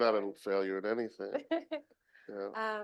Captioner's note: chuckles